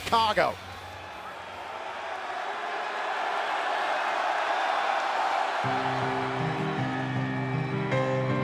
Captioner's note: crowd cheering